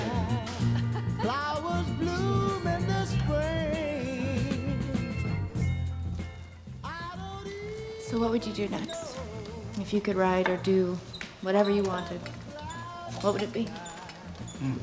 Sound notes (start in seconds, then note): 0.2 laughs